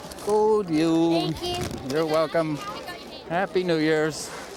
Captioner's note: speaking swedish